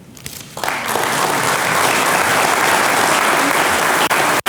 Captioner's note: audience applauding